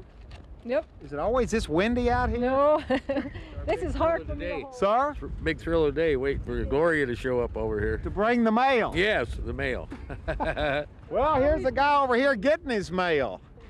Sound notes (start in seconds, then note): 2.7 laughter; 9.9 laughs